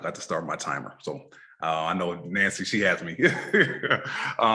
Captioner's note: laughs